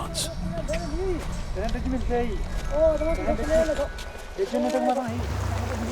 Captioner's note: speaking foreign language